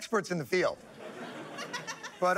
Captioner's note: laughter